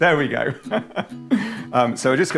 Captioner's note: laughing